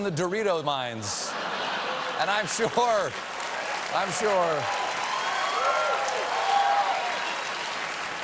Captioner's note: applause